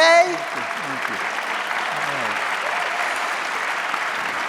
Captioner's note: audience applauding